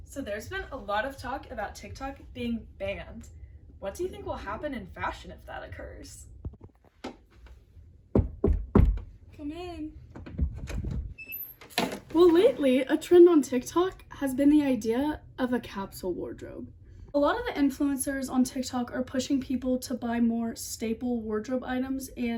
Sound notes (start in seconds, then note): 8.1 knock